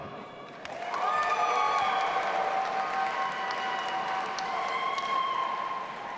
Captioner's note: audience applauding and cheering